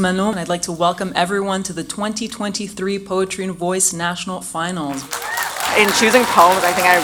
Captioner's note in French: Applaudissements